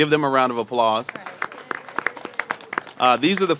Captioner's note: applause